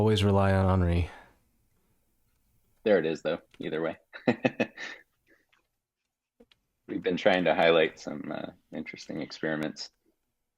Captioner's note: chuckling